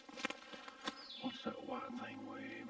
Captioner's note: leaves crunching; birds chirping